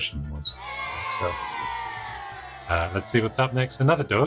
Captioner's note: children booing